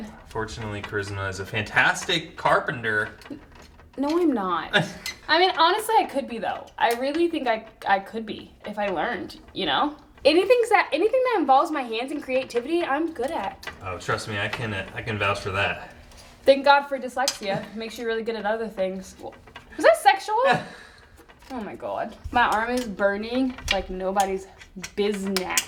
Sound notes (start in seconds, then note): 20.4 laughs